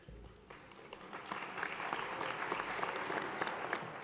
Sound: audience applauds

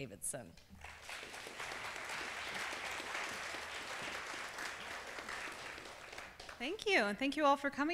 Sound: applause

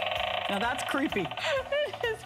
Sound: laughter

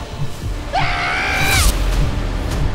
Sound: shouting

